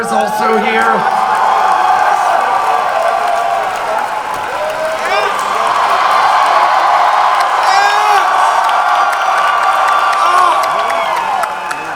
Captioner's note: crowd cheering